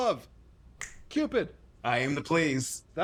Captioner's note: finger snap